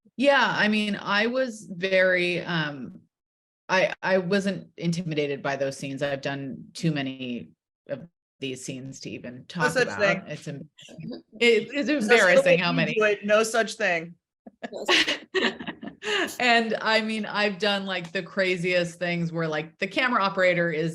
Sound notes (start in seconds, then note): 14.5 laughing; 14.5 laughs